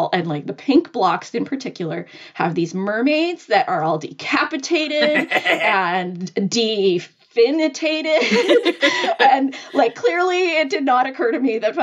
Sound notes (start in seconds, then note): 8.2 laughing